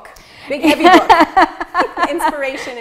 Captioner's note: laughing